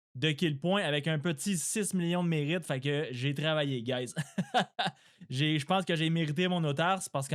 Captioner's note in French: rires